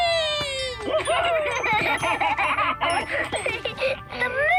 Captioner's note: laughing